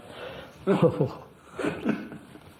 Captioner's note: laughs